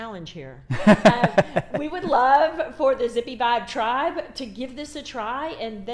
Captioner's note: laughs